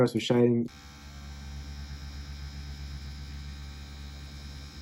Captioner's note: machine whirring